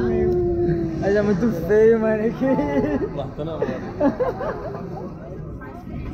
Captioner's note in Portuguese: risos